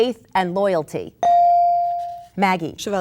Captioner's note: bell dings